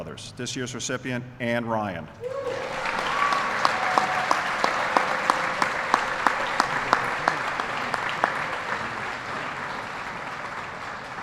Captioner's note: applause